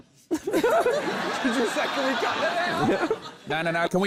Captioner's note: laughter